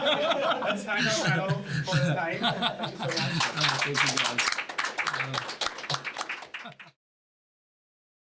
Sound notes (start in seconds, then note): 0.0 laugh; 3.0 applause